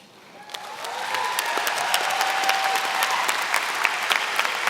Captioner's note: applause